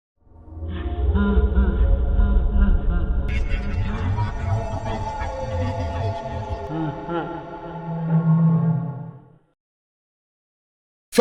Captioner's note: Creepy ambiance, Freddy laughing, garbled speech